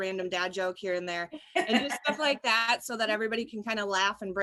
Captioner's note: laughter